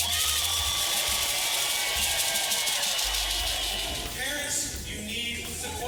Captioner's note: crowd cheering